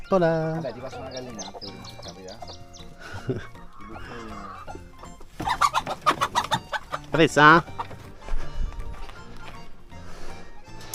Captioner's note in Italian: Risate